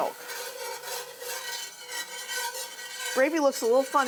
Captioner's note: whisk scraping